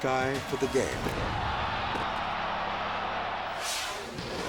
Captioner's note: crowd yelling